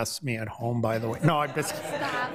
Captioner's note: all laugh